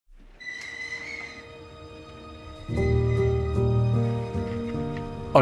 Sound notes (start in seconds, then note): 0.1 door creaking; 2.7 calm music